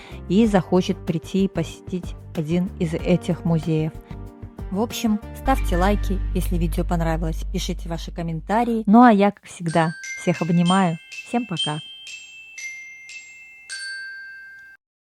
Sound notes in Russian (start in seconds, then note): 9.6 колокольчик